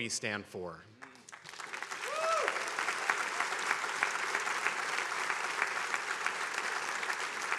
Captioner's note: attendees applauding